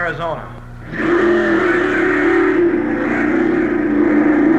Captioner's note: engines roaring